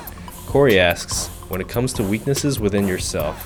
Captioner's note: voiceover